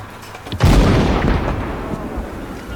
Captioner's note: explosion; men shouting in foreign language